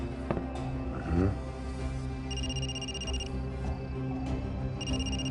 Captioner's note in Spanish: suena un celular